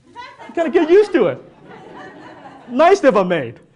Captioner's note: audience laughs